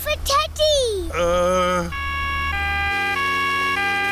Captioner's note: siren wailing